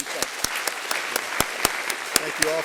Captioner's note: applause